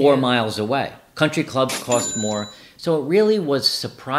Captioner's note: register clangs